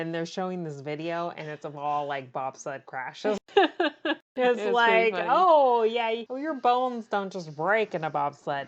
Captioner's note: laughs